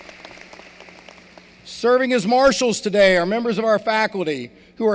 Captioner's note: applause